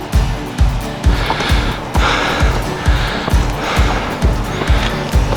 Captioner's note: panting